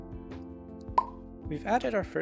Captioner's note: pop